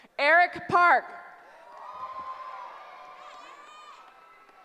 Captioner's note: cheering